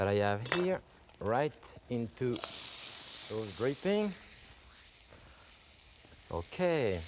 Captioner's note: pan sizzling